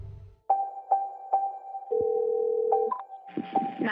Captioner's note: suspenseful music; phone ringing